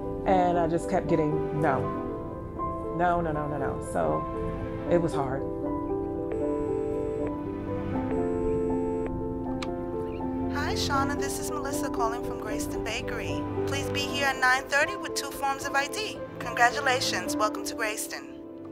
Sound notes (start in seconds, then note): 6.0 dial tone